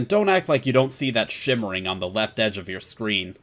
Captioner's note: none